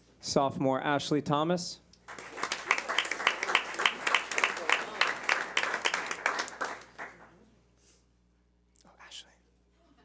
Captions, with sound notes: Sophomore Ashley Thomas. (clapping) Oh, Ashley.